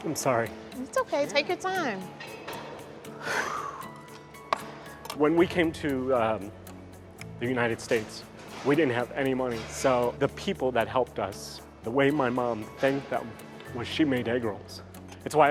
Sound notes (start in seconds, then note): 3.1 exhaling deeply